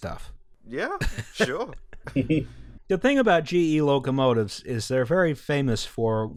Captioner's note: laughter